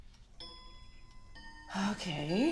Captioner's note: clock chiming